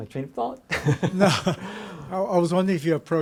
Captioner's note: laughs